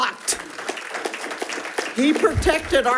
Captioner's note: attendees applauds